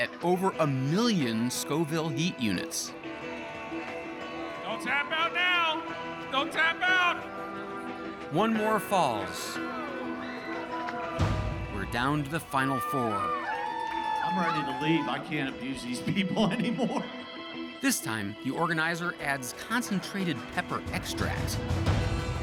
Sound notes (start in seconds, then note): 13.5 cheers and applause; 16.0 laughing